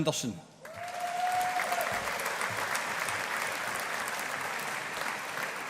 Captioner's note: audience applauding